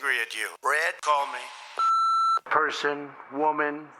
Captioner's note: beeping